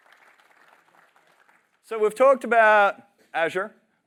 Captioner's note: applause